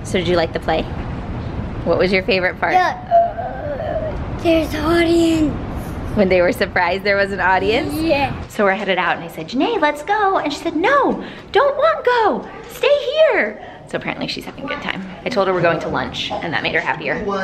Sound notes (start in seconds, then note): 3.2 gasps